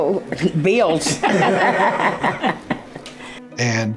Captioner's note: group laughing